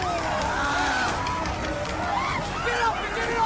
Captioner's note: roars